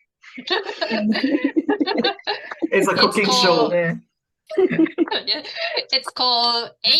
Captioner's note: laughter